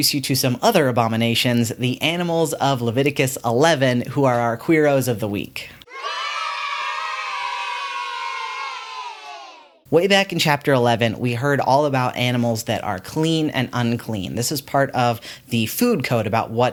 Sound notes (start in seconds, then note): 5.8 children cheering